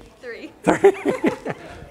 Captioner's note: laughter